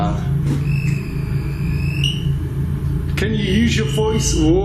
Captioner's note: device beeping